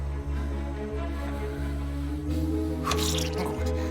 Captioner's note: Frau lacht leise